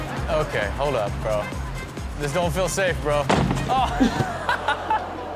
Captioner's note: laughs